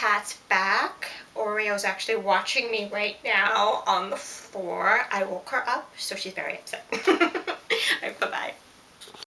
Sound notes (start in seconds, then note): 7.0 laughs